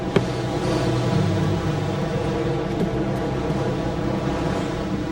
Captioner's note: wind howling